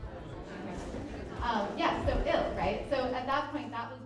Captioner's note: people talking